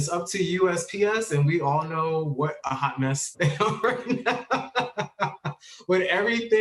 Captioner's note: laughs